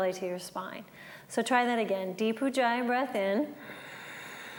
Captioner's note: breathes